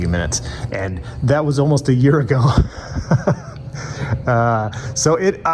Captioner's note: laughs